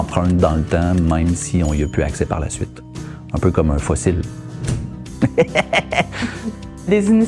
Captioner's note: laugh